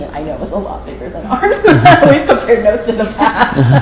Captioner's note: laughter